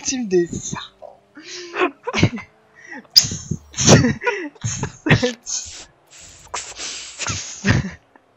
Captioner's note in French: Rigolent et imitent des bruits de serpents